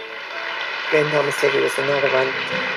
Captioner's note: audience applauds